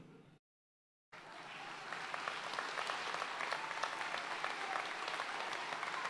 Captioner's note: audience cheering and applauding